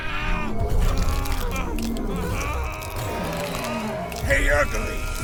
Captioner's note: Giree snarling; Kaak groaning; bones cracking